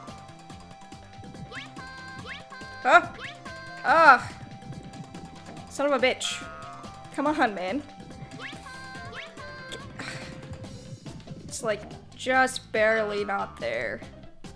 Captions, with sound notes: Huh! Aww! Son of a bitch. Come on, man. Get- [SIGHS] It's like, just barely not there.